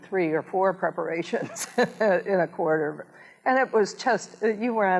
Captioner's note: chuckles